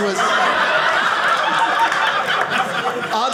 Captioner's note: audience laughing